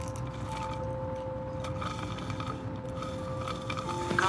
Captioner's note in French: bruit provenant de la paille